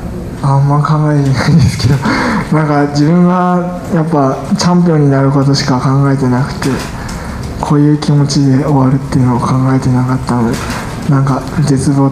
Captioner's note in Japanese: 苦笑